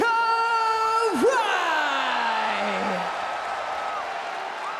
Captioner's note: crowd cheers